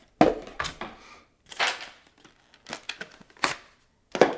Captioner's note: tool thudding; boxes thudding